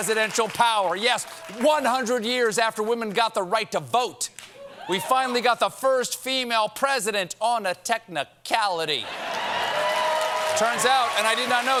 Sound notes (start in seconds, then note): 9.0 cheers and applause; 9.9 laughter